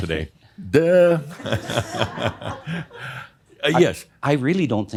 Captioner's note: Adamus continues chuckling